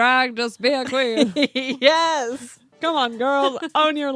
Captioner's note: laughs